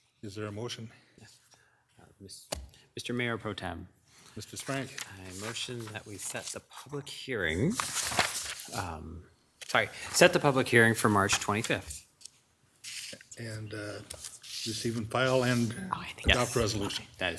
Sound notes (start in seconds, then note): 9.1 paper rustles